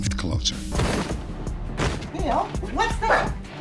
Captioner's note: banging